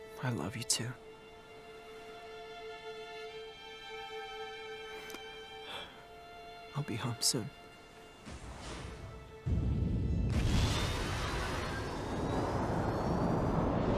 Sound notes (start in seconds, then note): 8.4 distant shuttle noises; 12.4 shuttle taking off